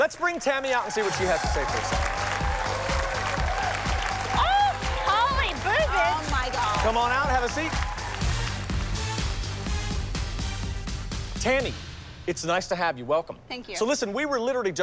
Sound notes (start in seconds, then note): 2.4 applause and cheering